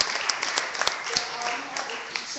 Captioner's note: clapping